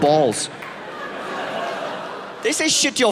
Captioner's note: audience laughing